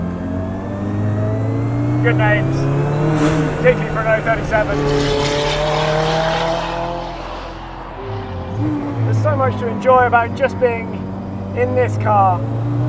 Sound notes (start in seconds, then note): 0.3 car engine revs; 6.4 car engine roars